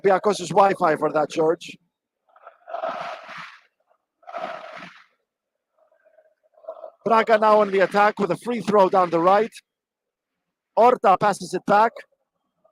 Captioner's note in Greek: Χειροκρότημα